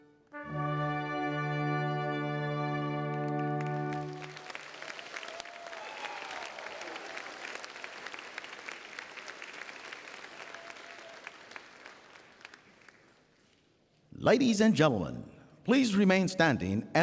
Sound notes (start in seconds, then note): 3.0 applause